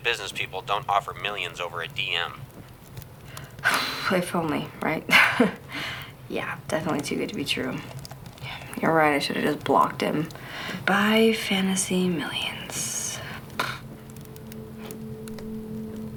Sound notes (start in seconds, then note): 4.9 laughs; 13.1 suspenseful music plays